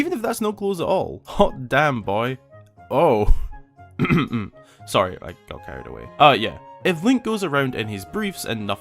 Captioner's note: cough cough